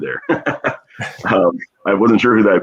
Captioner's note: laughs